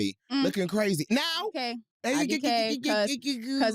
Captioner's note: muttering